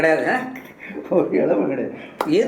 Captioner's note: laughter